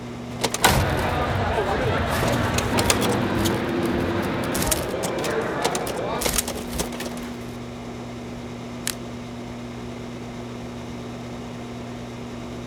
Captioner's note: crowd chatters; film runs